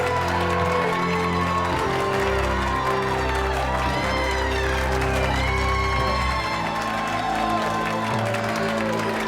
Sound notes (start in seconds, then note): 3.3 audience applauding and cheering continues